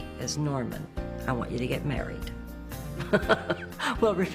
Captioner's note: laughs